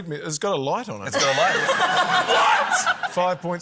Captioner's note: laughter